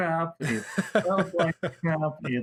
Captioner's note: hahahaha